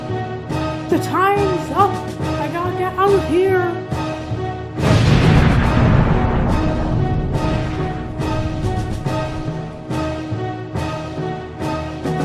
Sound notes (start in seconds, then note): 8.6 explodes